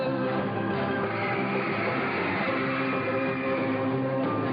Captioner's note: crowd cheering; lively music